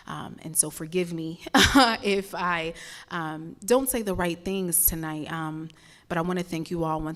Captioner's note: laugh